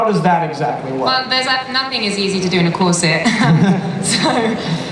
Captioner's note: laughs